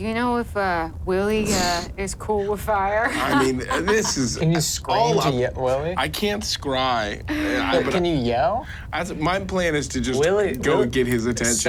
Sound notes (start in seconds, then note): 3.1 laughs